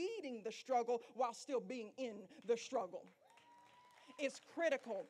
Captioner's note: applause